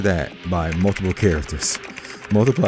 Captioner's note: keyboard clacking